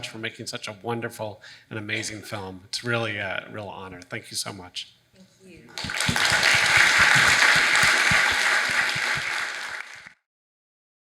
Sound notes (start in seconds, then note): 5.7 audience applauding